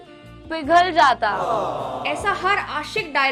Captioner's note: awwwww